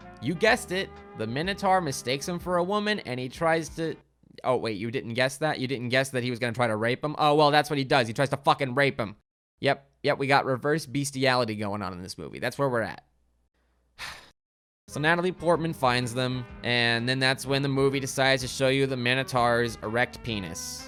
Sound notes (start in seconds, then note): 14.0 sighs